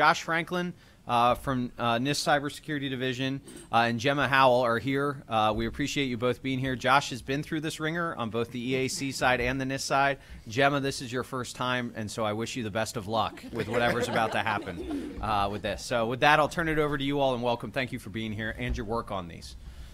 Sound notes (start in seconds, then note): 13.3 laughter